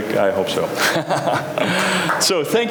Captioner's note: chuckles